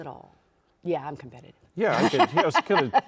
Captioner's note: laughing